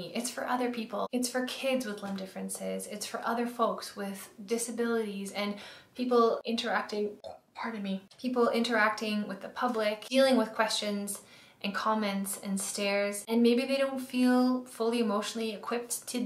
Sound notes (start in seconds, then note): 7.2 burps